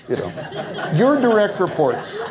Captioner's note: audience laughs